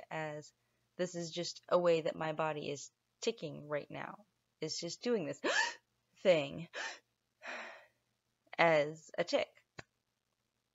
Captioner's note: gasp!